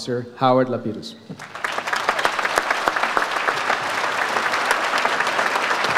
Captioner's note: audience applauds